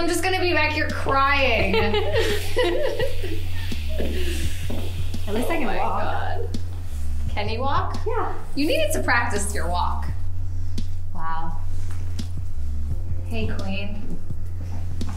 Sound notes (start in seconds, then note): 1.5 both laugh